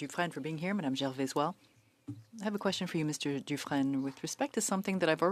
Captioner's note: speaking French